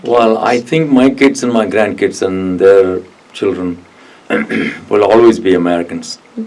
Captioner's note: clears throat